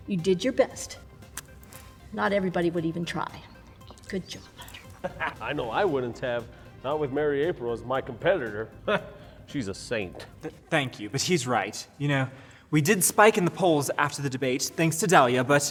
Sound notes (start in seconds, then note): 4.6 laughs; 8.9 Homeless Hugh chuckles